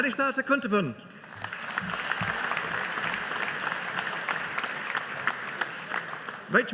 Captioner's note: audience applauding